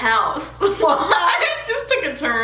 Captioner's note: laughing